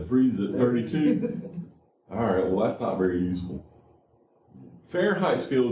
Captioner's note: laughter